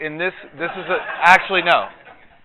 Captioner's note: audience laughs